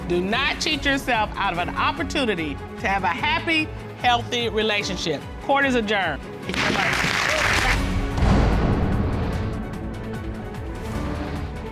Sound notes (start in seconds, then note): 6.5 audience applauding; 8.3 dramatic music playing